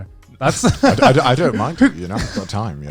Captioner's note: both laughing